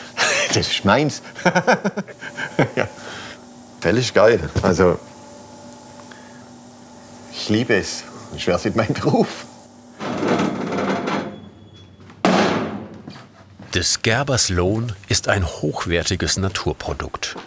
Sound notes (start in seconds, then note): 1.3 laughs; 10.0 the door creaks